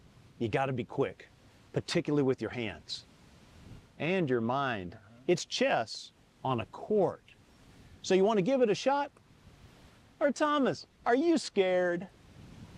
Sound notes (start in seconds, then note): none